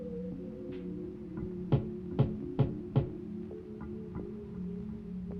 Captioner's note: knocking